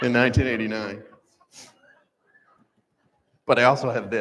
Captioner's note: laughter